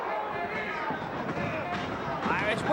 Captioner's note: footsteps thumping